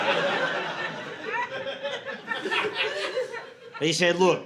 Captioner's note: audience laughing